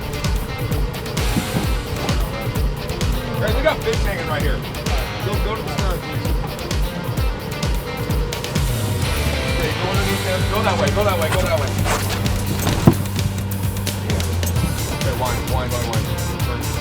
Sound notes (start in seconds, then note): 13.9 murmuring